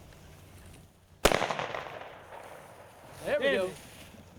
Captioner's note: gunshot cracks